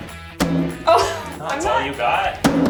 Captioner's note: smack